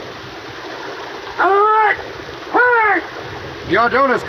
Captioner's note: man yelling